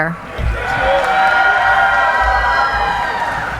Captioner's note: cheering